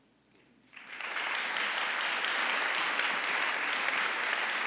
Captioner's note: audience applauding